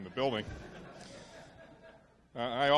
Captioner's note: audience laughs